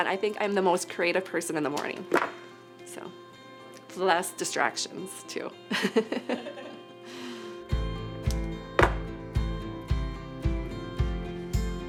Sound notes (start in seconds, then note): 5.7 participants laugh; 7.6 bright music